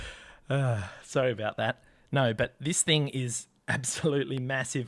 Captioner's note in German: Seufz